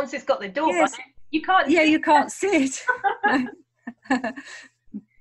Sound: laughing

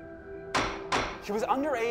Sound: hitting gavel

